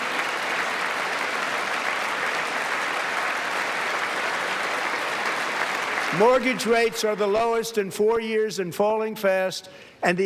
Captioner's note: applause